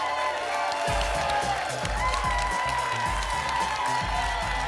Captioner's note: applause and cheering